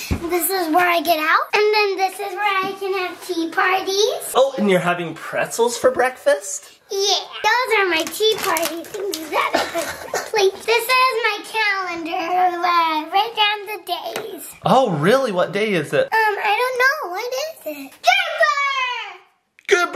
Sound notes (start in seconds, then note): 9.4 laughing